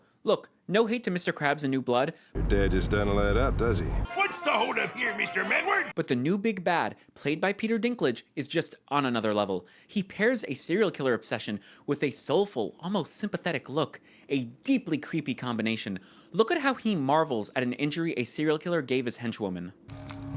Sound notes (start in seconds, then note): 2.3 normal voice; 4.0 Mr. Krabs voice